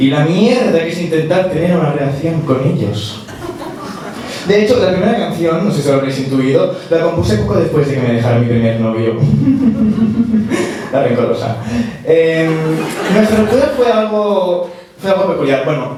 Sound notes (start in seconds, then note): 12.4 laughs